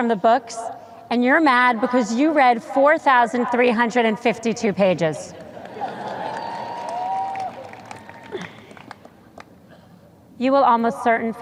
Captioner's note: sparse cheers